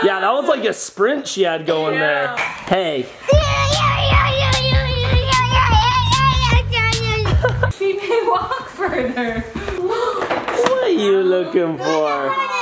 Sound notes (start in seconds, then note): 3.9 shouting